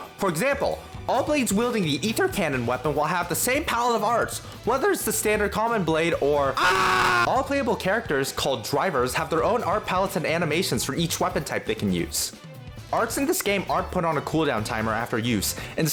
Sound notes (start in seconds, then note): 6.5 screams in 0.01%